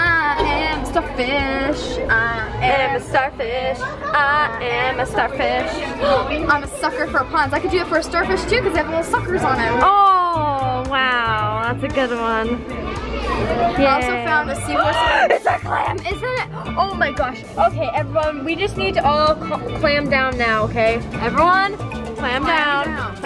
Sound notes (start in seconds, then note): 5.8 gasps; 16.4 gasps